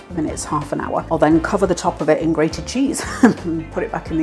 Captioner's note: laugh